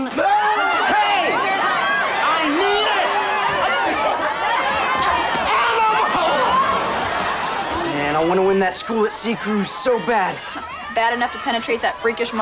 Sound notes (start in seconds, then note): 1.4 students clamoring; 3.0 clamoring